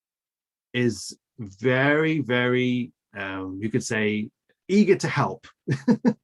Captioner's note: laughs